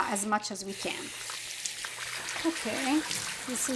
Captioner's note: water splashing